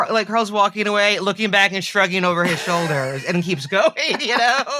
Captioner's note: she laughs